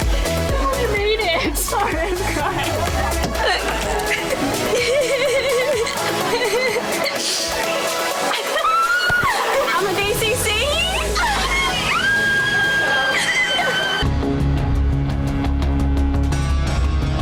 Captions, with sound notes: - I made it, I'm crying. (crying) (screaming) - I'm a DCC! (screaming) (dramatic music)